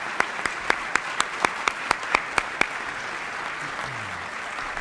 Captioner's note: applause